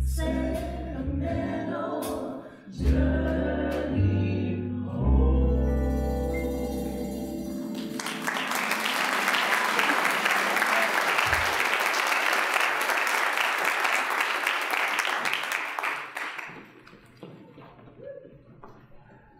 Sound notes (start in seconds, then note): 7.7 applause